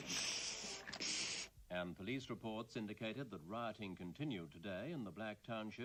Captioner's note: RADIO news